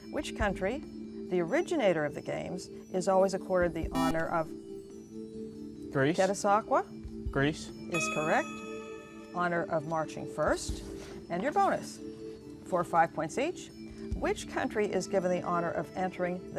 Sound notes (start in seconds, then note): 3.9 buzzer